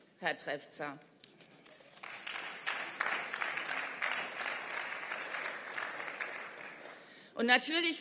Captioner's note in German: Beifall